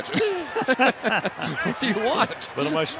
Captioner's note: laughs